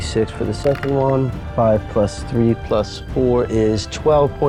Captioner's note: dice rattling